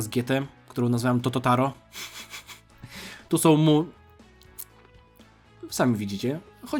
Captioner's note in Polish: śmiech